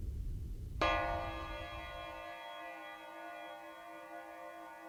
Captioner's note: ringing bell